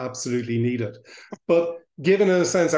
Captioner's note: laughs